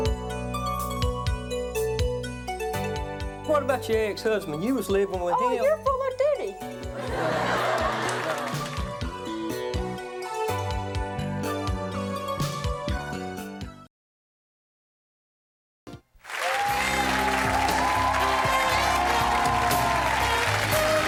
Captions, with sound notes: (melancholy music) - What about your ex-husband? You was livin' with him. - Oh, you're full of doody. (audience laughs) (melancholy music) (audience applauds) (upbeat music)